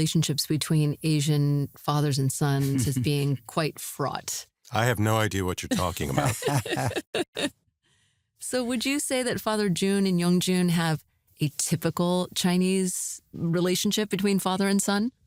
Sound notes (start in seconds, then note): 5.6 laughter